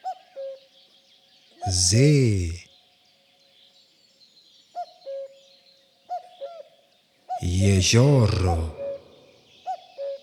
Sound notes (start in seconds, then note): 2.6 german